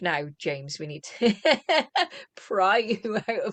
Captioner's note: laughter